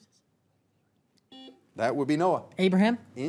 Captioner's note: buzzer beeps